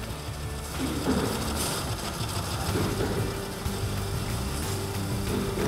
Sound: makes sewing noises

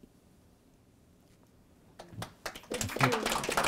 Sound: applause

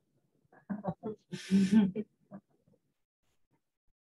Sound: laughter

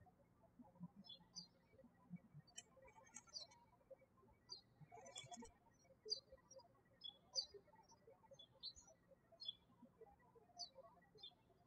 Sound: birds chirping

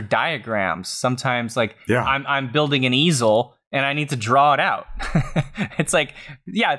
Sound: laughs

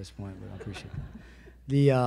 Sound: audience laughs

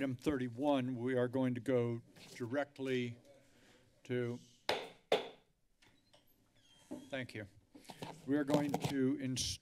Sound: strikes the gavel

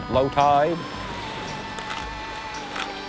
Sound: wave rushes in

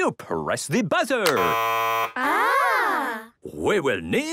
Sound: buzzing

